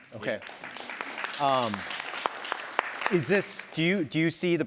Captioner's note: applause